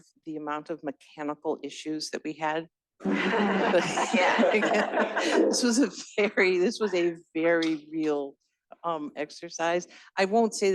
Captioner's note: laughter